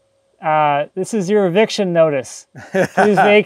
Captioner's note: laughing